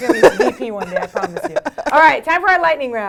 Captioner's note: laugh